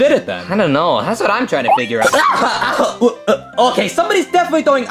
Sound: groaning

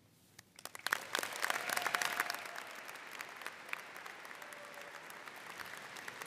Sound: audience cheering and applauding

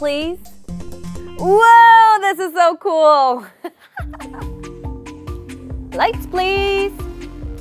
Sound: laughing

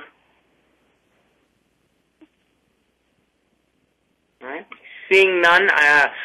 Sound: pause

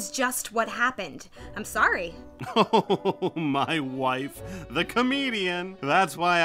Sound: chuckling

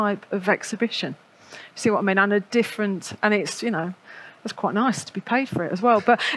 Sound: laughs

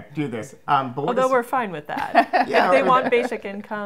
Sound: laughs

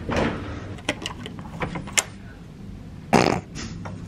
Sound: card clicks

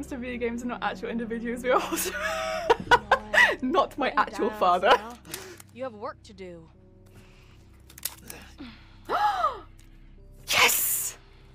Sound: gasp

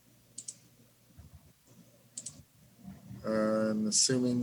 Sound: mouse clicks

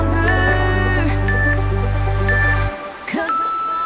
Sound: timer beeps

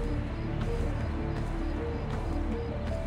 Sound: none

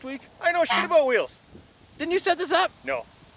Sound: horn honks

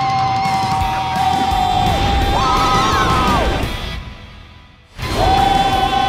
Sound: riders continue screaming

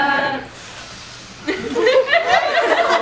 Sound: deep inhale

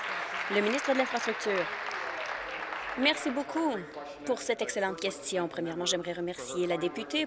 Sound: applause

